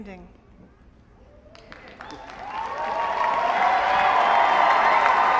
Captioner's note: applause